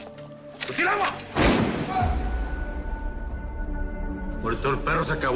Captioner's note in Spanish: Disparo